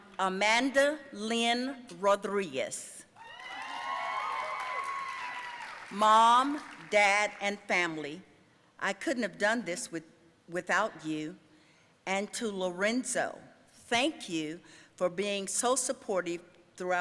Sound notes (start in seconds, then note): 3.2 audience cheering and applauding